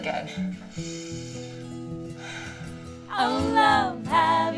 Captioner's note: sniffing